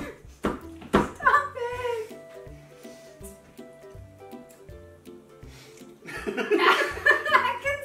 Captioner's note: nearly peeing in her pants from laughing